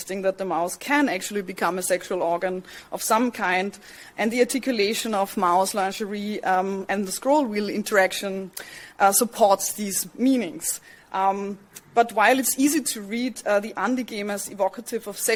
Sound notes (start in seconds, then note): none